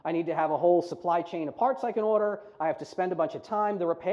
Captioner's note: none